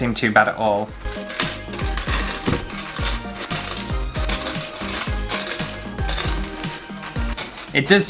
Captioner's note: gravel Sounds